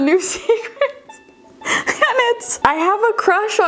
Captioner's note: chuckling